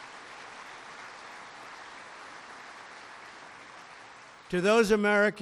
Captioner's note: applause